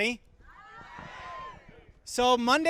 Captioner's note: crowd